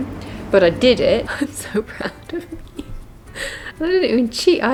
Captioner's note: sob